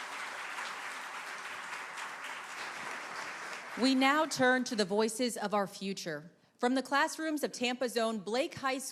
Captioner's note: applause